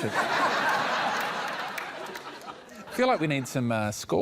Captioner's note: laughter